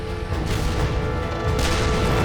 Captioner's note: cannon firing; turret firing; cannon firing